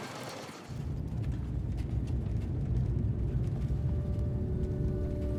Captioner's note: car engine drones